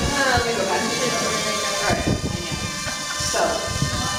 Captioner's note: drone noise